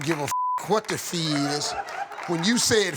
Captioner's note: beep; audience laughing